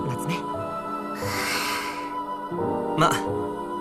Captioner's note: relieved sigh